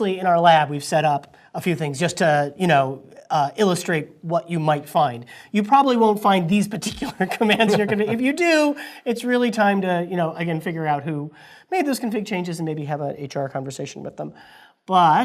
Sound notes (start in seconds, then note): 6.9 laugh